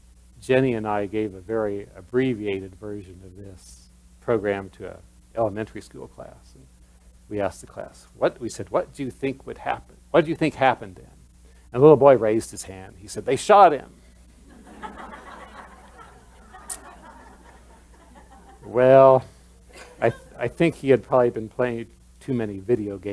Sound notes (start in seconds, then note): 17.6 laughter